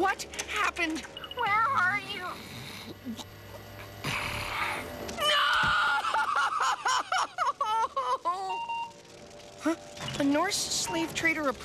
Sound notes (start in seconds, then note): 2.2 snoring; 8.4 computer beeps